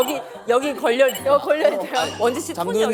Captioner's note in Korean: 삐빅